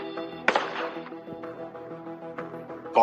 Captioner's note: gunshots